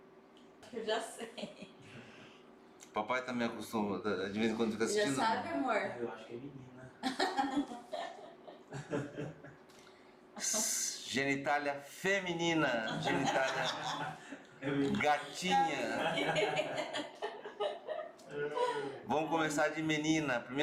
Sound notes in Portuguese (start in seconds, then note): 7.0 risos; 12.7 risos; 15.6 risos